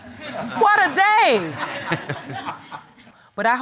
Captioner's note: audience laughing